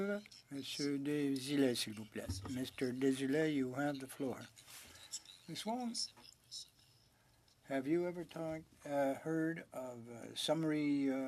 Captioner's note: speaking French